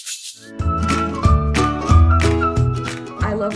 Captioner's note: playful whistling